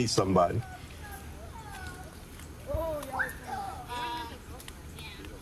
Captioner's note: overlapping chatter